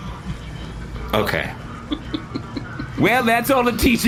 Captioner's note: laughing